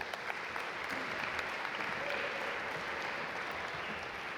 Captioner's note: audience applaud